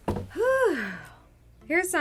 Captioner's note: exhaling